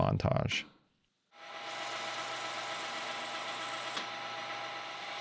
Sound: machine whirring

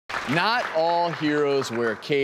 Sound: clapping

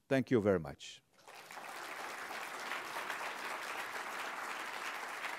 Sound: applause

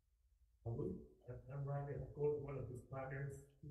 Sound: murmurs

